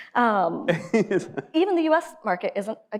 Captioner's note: laughs